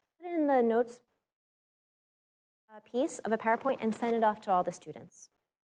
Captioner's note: audio out